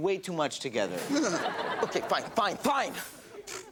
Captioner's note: audience laughs